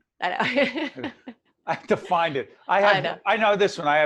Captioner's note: laughing